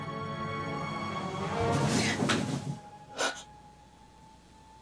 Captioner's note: dramatic music; gasping